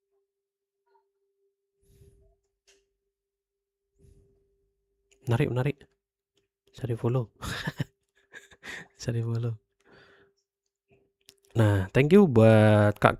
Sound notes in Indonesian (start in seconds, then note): 7.4 tertawa